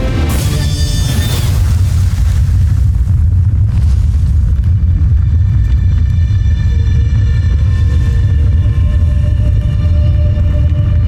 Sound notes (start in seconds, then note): 1.0 infernal whoosh-crackle; 2.0 molten surge rumbles; 2.0 pensive music playing; 10.1 molten surge rumbles; 10.1 tense music playing